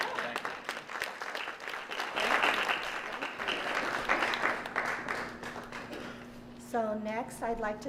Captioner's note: applause